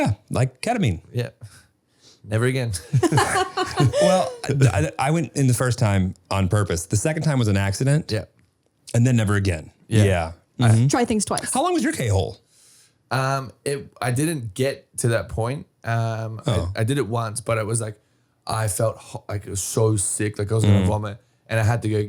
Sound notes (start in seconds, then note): 2.7 both laughing